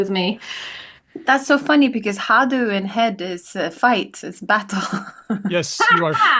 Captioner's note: laughs